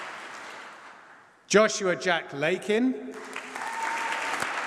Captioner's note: applause